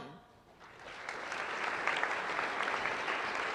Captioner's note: applause